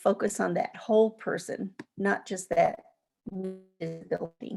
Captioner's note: distorted sound